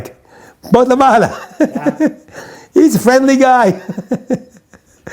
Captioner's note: laughs; laughs